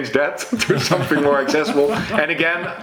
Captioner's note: laughs